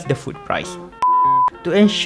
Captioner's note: beep